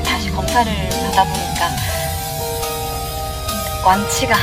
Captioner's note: Tiếng ồn phát sóng trực tiếp